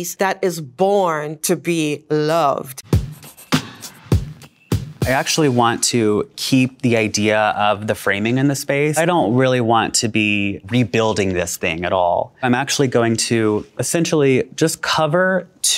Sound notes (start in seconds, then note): 2.7 upbeat music; 3.2 pencil writing